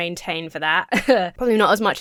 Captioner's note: chuckles